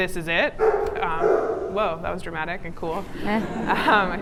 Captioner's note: dog barks in background